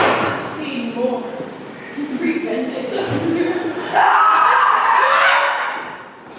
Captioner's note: Gloucester screams again